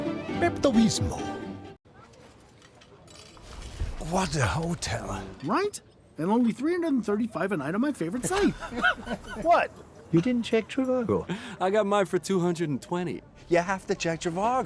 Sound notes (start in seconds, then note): 8.2 giggling